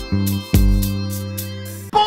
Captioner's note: jingle plays; yelling